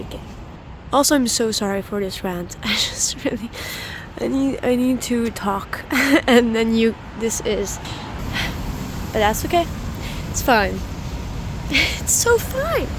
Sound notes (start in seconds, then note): 8.3 disappointed sigh